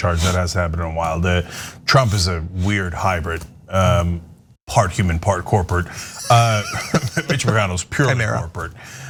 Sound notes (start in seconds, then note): 5.9 laugh